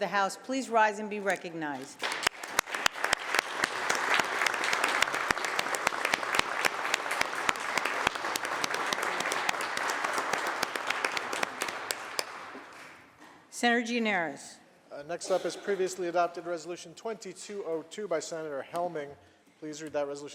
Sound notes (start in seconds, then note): 1.8 applause